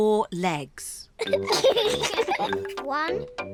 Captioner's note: both giggle